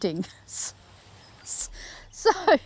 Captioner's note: laughs